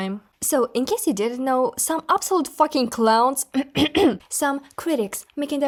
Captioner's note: cough, cough